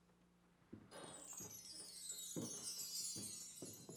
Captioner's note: sparkly ring